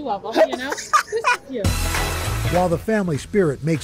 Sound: laughter

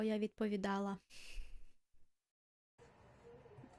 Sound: silence

